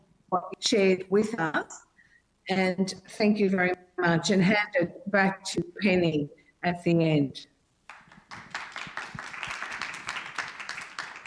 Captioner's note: applause